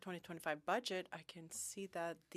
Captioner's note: speaking French